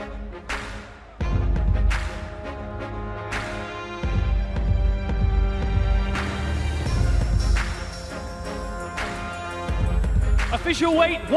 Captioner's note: applause